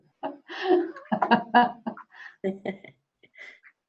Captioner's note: laughing